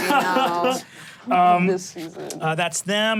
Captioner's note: laughs; groans